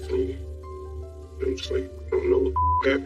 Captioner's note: distotorted voice